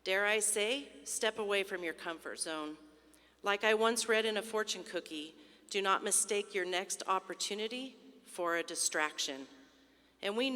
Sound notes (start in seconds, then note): none